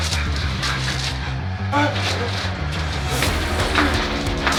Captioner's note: screaming